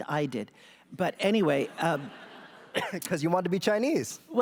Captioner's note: laughter